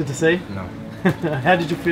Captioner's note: chuckles